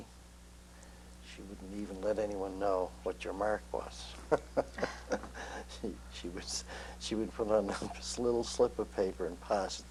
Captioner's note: laughter